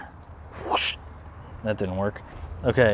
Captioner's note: whooshes